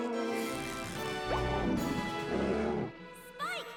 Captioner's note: snarls; whimpers; boink!